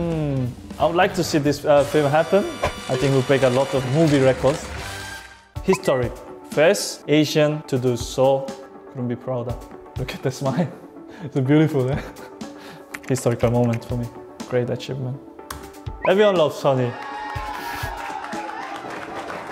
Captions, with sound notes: I would like to see this film happen. I think it would break a lot of movie records. Historic, First Asian to do so. Couldn't be prouder. Look at that smile. It's beautiful, uh? Historical moment for me. Great achievement. Everyone loves Sonny. [cheering]